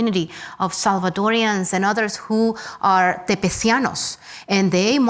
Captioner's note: speaks Spanish